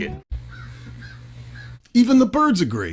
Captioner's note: birds singing loudly